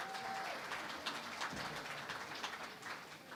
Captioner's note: applause